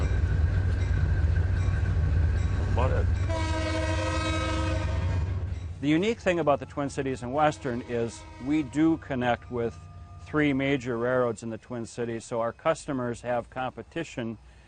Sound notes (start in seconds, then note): 0.6 train bell rings; 3.2 train horn blares